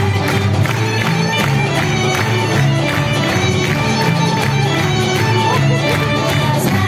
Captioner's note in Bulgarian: аплодисменти